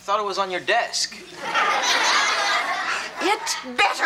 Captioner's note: audience laughs